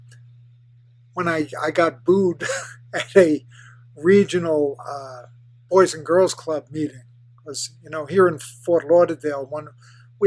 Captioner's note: laughs